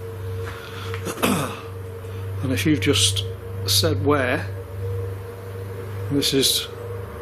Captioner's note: throat clearing